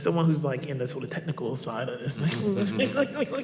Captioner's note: laughs